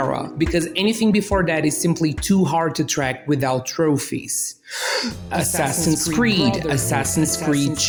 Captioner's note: inhales deeply